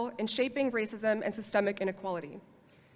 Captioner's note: none